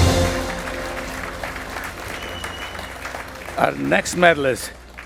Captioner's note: attendees applauding